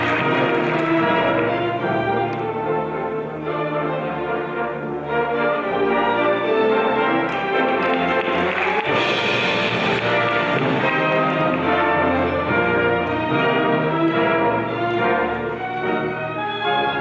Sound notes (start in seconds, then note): 0.9 classical music; 7.1 audience applauding; 11.8 lively classical music